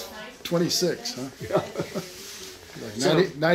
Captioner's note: laughs